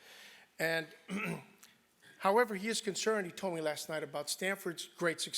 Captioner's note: cough